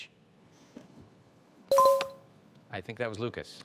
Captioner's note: bell dinging